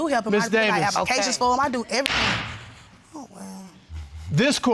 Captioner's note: bangs gavel